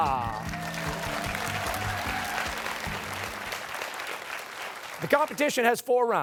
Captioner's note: cheers and applause